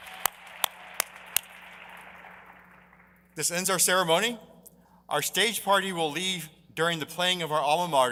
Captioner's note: applause